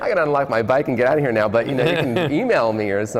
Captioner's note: laughs